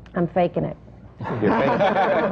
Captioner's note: laughter